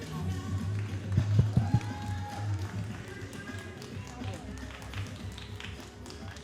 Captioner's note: all applauding and cheering